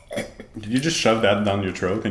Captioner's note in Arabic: أصوات الإسكات